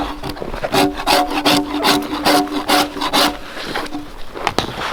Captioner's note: drawknife scraping